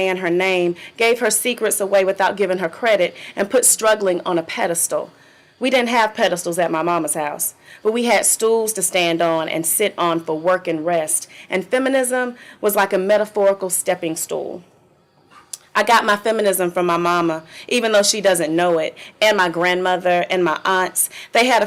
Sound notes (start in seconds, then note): none